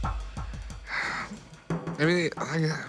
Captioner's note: sigh